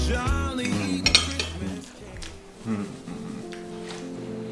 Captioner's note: moans